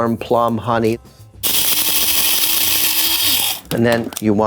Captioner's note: grinder whirring